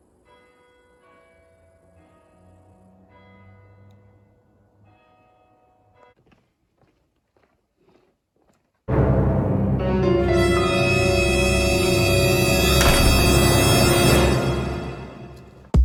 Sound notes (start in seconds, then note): 0.2 clock tower chimes; 6.1 footsteps; 8.9 dramatic sting; 12.4 door close; 12.4 dramatic sting